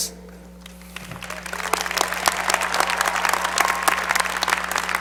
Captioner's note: applause